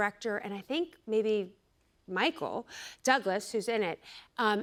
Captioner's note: none